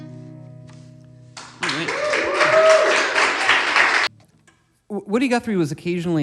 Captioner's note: audience claps and cheers